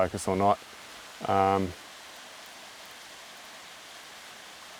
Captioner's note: water running